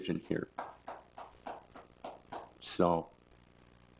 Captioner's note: people clap